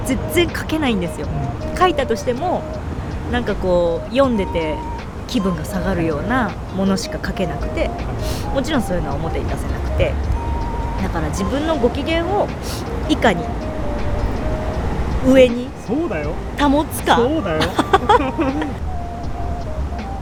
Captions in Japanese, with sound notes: 書いたとしてもなんかこう読んでて気分が下がるようなものしか書けなくてもちろんそういうのは表に出せなくてだから自分のご機嫌を下に上に [鼻息] そうだよ 保つか そうだよ[笑い]